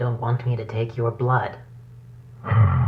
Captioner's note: sighs